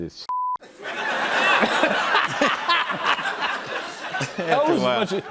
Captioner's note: laughter